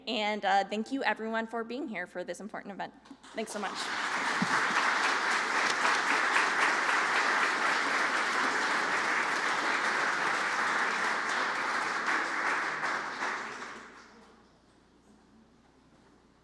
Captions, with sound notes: And thank you, everyone, for being here for this important event. Thanks so much. (applause)